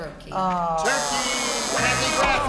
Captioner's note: buzzer